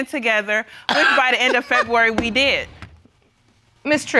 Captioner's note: coughs